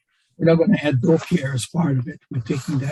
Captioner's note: voice muffling